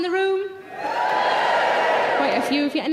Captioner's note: audience members cheer